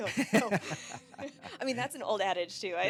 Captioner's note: both laughing